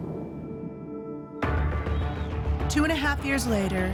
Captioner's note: crowd cheering